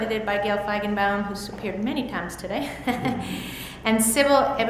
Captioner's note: laughs